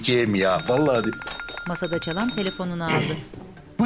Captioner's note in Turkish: Telefon zili sesi